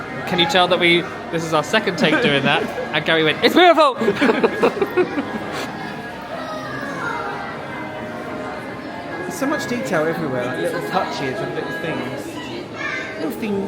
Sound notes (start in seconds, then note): 0.0 chuckles; 3.9 both laughing; 6.8 gentle festive music